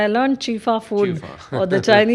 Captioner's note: laughs